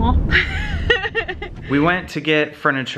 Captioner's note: laughs